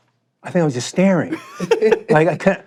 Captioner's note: both laughing